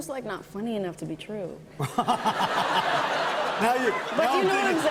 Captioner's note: laughter